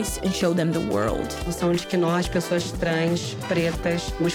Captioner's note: speaking in Portuguese